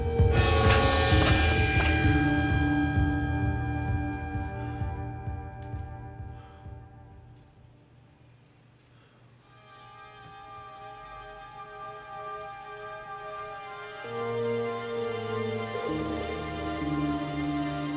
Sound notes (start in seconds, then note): 0.1 church bell ringing; 6.3 James panting; 9.6 unsettling music